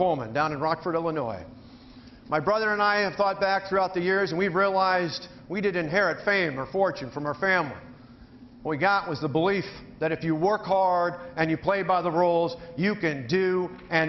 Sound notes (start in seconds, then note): none